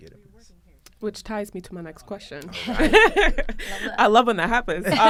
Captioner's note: laughter